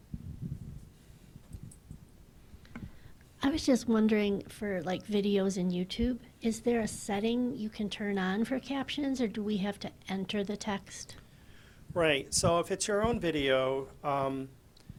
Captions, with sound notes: - [Voiceover] I was just wondering for videos in YouTube. Is there a setting you can turn on for captions or do we have to enter the text? - Right, so if it's your own video,